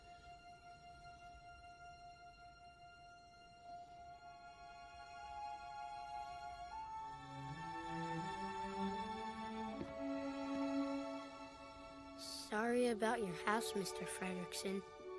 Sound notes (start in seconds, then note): none